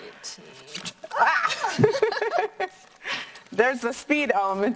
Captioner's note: both exclaim